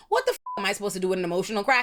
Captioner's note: beep